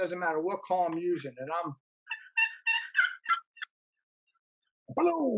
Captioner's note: turkey call sounds